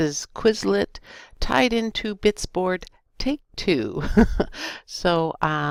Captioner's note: laughter